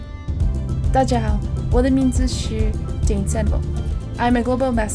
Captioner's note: non-english speech